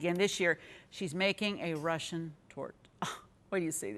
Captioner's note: sighs